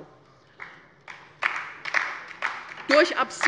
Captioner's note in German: Beifall bei der LINKEN